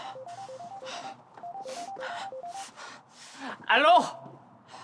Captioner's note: phone ringing